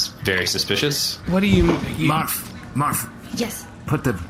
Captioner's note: nervous